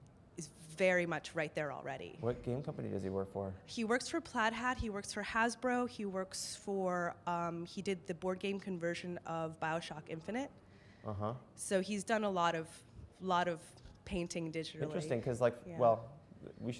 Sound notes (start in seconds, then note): 3.8 voiceover